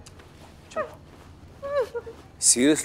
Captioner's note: Shreya sobs